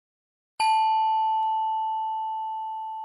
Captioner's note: bell dings